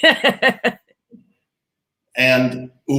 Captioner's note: laughing